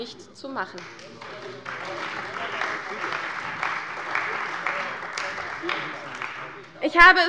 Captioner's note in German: Beifall bei der CDU